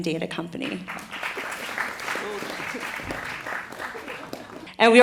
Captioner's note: applause